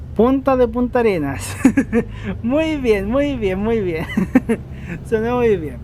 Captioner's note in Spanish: risas